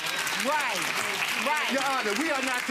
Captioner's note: audience applause